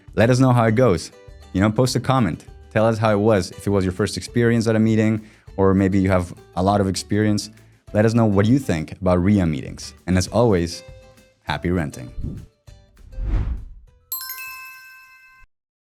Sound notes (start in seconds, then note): 13.0 logo whooshing; 14.1 lively music